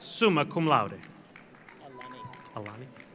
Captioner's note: audience applauds